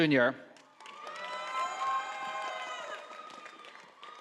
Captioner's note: audience applauding